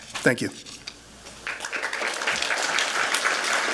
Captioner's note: applause